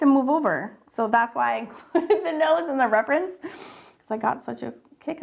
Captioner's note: laughs